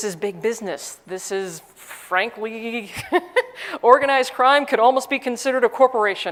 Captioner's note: laugh